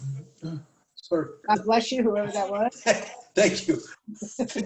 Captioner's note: laughter